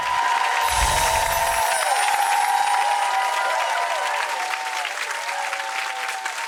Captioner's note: crowd cheering; bright chimes